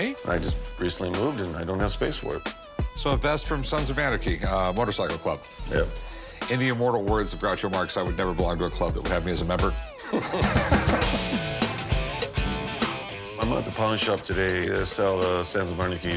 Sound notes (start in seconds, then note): 9.8 laughing; 9.9 motorcycle revving